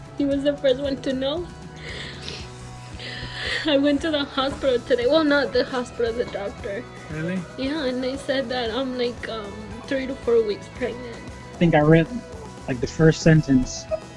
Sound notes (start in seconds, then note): 1.7 sniffling